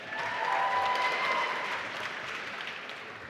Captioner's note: applause